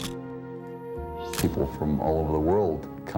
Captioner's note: camera shutter click